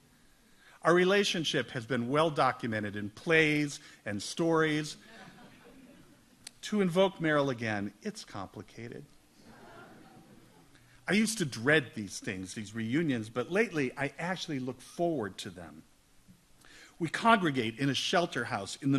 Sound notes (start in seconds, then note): 5.0 audience laughs